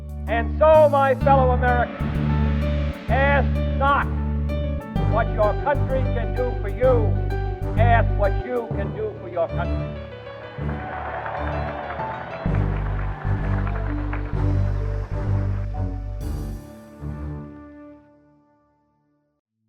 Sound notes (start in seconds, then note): 10.4 applause